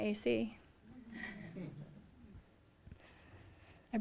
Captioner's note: laughter